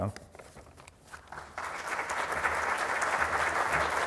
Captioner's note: applause